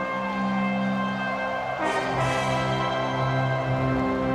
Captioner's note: crowd woos